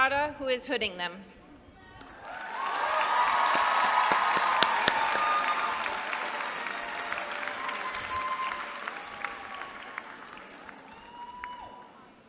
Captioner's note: applause